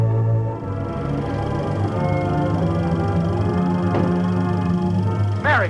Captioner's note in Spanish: proyector, música